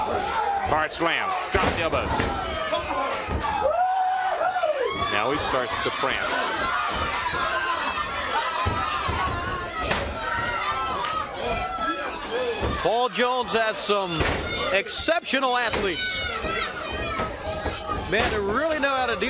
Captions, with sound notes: HARD SLAM. DROPS THE ELBOW. >> [CROWD CHEERING] >> NOW HE STARTS TO PRANCE. >> [CROWD CHATTER] >> PAUL JONES HAS SOME EXCEPTIONAL ATHLETES.